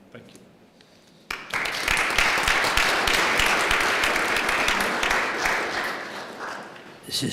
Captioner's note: applause